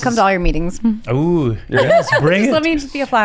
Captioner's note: chuckles; laughs